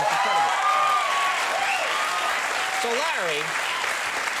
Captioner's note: audience clapping